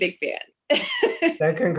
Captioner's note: laughs